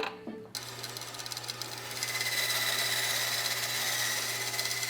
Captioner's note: saw whirring